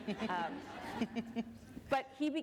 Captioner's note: laughter